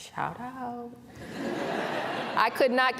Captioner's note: laughter